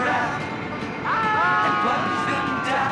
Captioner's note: Rick, Will, and Holly yell